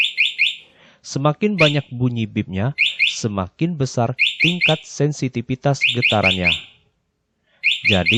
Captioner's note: the more beeps